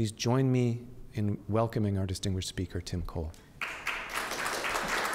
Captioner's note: applause